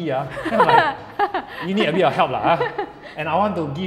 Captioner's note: laughs